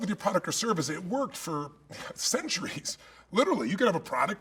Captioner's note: chuckle